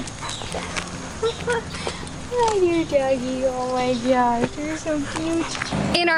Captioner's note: laughter